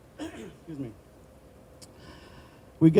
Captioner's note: clearing throat